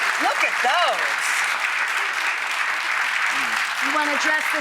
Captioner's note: audience applauding